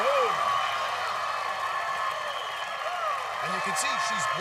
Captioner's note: cheers and applause